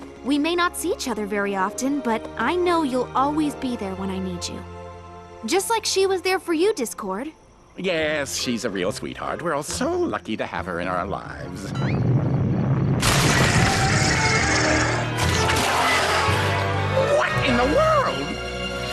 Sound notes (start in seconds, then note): 11.6 crash